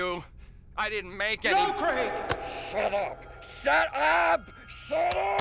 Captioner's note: father Shouting